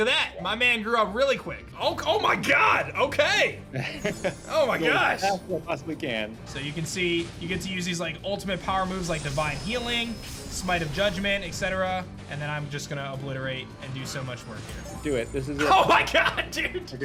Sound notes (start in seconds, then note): 3.8 chuckles